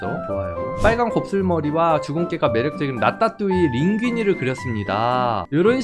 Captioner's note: voiceover